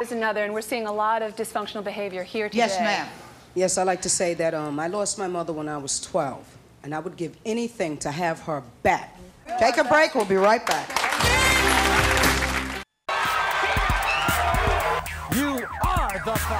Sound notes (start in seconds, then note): 10.1 clapping; 11.0 energetic music